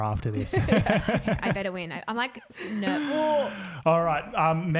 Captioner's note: gagging